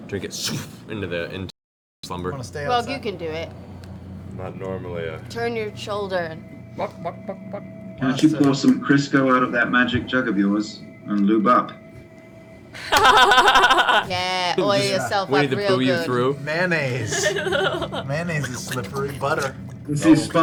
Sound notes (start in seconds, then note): 7.8 chicken noises